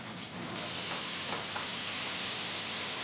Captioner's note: sizzling